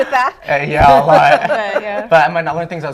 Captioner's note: laughter